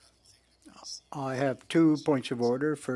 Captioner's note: speaking French